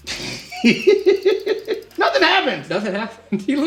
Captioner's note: laughs